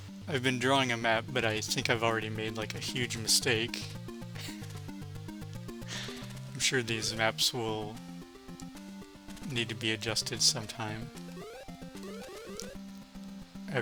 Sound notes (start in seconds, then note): 6.4 laughs